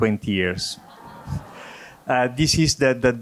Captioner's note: audience laughing